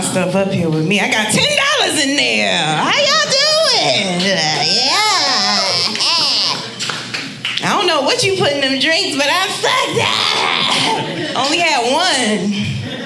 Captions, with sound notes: Bring my stuff up here with me. I got $10 in there. How y'all doing? Yeah. (audience applauding) I don't know what you put in them drinks, but I'm fucked up. I only had one.